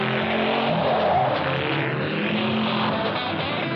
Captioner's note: tires squeaking